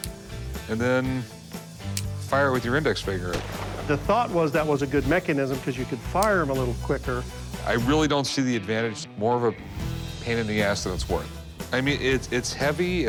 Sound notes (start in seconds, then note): 3.3 gunshot